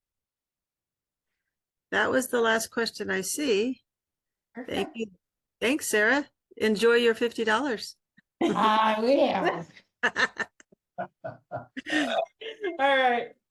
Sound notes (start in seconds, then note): 11.0 laughs